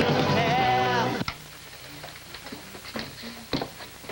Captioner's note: music stops as radio is switched off